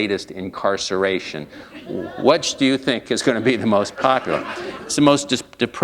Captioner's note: laughter